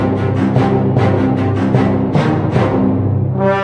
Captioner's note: none